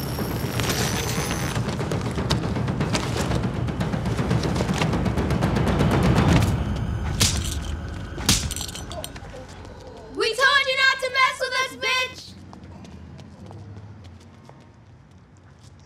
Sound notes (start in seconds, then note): 0.9 dramatic energetic music; 7.1 kids slapping